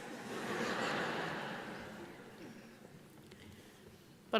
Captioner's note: audience laughs